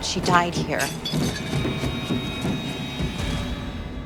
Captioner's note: body thumping